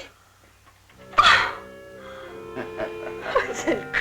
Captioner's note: laughing